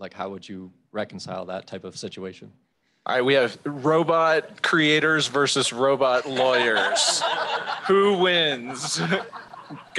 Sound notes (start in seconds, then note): 6.1 laughter